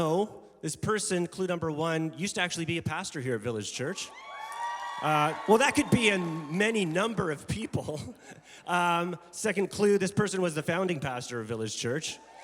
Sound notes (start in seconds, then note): 3.9 congregation cheering